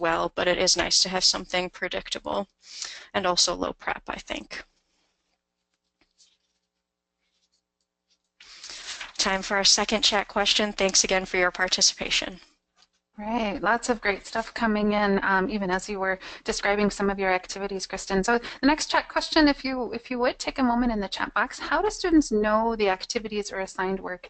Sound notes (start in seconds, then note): 13.2 voiceover